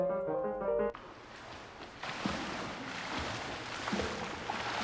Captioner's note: water splashing